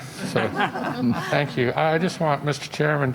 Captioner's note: laughter